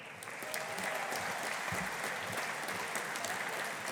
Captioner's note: audience applauding